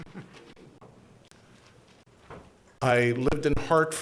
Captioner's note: board chuckling